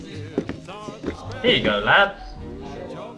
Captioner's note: awful Voice